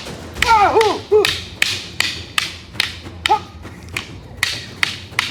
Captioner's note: sticks clunking; man screaming